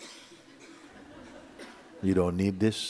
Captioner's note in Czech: Posluchači se smějí